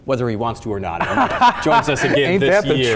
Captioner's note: laughs